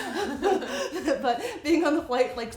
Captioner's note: laughing